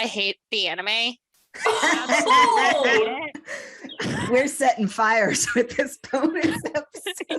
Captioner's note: shocked laughter